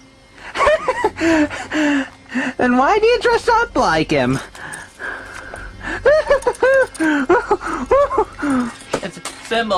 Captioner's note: maniacal laughter